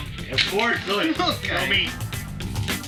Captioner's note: laughing